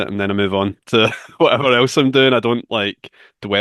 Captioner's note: chuckles